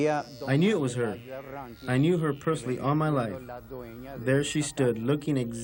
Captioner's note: speaking foreign language